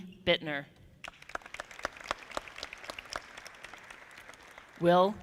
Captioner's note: audience clapping